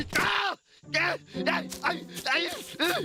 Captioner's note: groaning